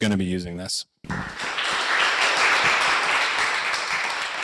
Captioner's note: audience applauding